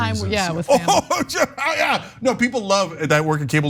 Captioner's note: laugh